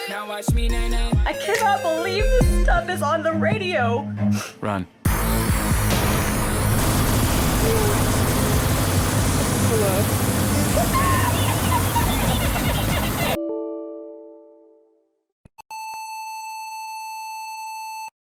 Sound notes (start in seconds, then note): 5.4 loud Droning; 10.9 laughter